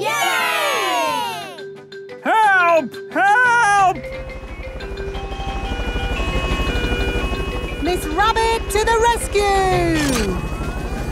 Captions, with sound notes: - (crowd cheering) Yay!!! - Help! Help! - (emergency siren sounding) - Miss Rabbit to the rescue!